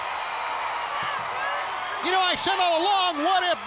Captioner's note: crowd cheering; crowd chatter